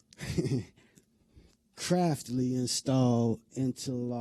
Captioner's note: laughter